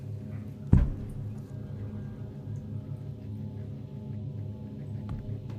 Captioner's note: ceiling thumping; ominous music continues